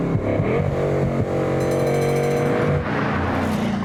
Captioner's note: tram bell jingles